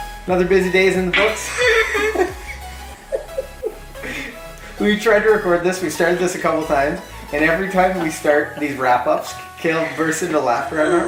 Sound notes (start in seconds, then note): 1.2 laughter